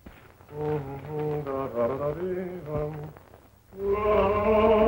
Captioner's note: humming